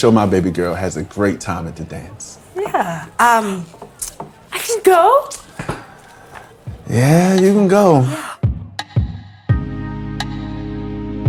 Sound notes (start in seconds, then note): 5.4 gasping; 8.6 bright music